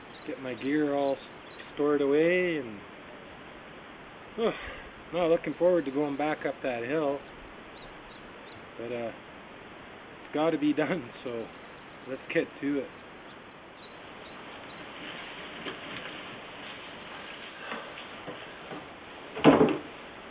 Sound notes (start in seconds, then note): 16.3 birds singing